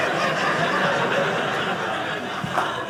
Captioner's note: audience laughing